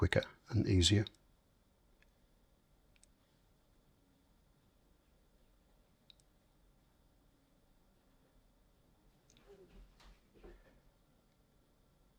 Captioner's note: silence